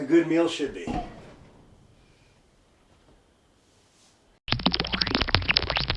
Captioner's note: chirping